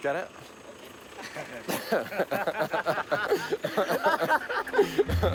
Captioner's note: both laughing